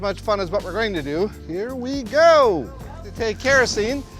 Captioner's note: audience oohing